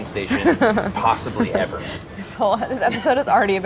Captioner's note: laughing